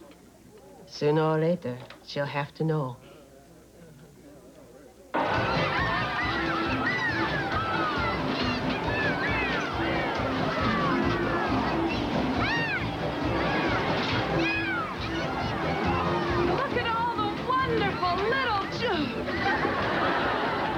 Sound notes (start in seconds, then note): 5.5 kids screaming and shouting